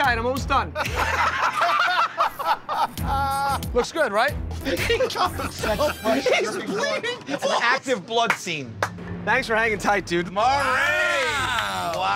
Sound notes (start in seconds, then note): 2.2 laughter